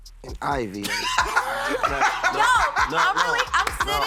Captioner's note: laughter